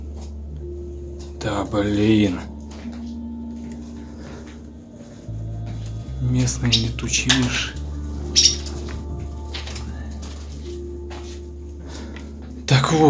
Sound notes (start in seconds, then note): 8.2 birds chirping; 9.3 sad music